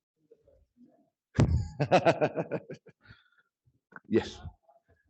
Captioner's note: laughs